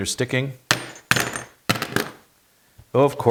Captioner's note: metal clattering